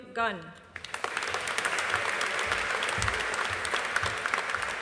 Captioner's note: audience applauding